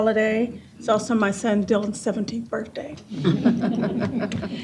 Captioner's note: chuckles